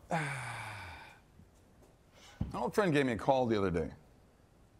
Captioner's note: exhales